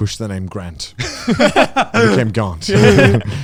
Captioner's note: both laughing